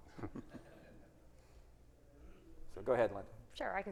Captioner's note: audience laughing